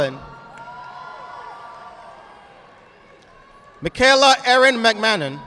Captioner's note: audience applauding